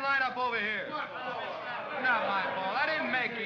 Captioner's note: men grumble